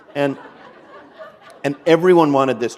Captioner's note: laughter